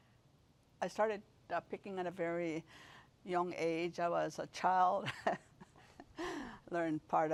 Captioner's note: rires